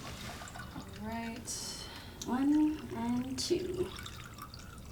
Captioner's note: pouring drinks